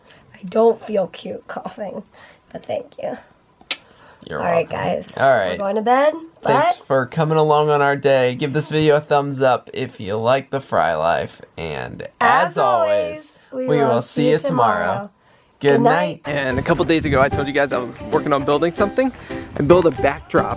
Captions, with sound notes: I don't feel cute coughing but thank you [tongue click] you're welcome all right guys all right we're going to bed thanks for coming along on our day give this video a thumbs up if you like the Frey life and as always we will see you tomorrow! goodnight! and a couple of days ago I told you guys I was working on building something I built a backdrop